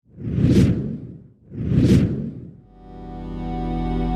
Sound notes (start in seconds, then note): 0.0 whooshing